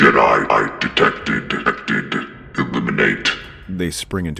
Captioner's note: in a garbled voice